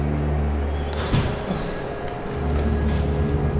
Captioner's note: simultaneous doors closing